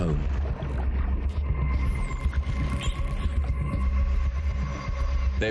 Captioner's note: whistling and clicking